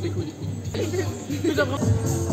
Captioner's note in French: rires